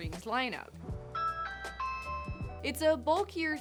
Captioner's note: doorbell rings